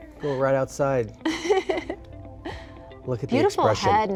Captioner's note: laughs